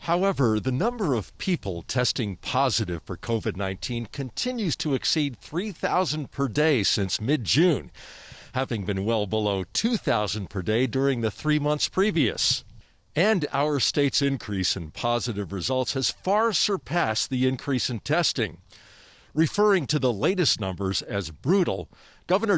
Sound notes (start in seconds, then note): none